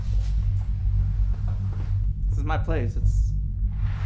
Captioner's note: door rattles